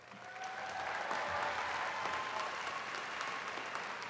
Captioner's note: attendees cheering